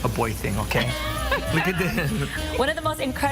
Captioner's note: laughs